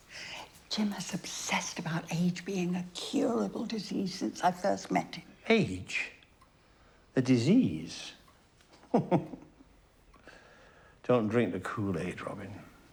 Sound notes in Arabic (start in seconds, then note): 8.7 ضحكة خافتة